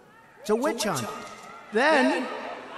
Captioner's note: audience hollering